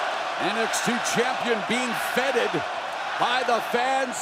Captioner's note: crowd cheering